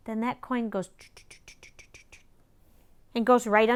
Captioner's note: makes traveling noises with mouth